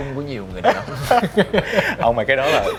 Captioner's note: laugh